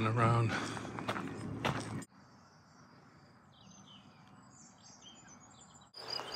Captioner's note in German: Vögel zwitschern